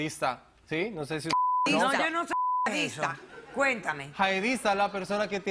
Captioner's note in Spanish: Bip